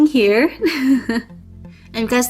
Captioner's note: laughs